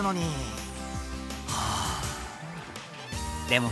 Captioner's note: sigh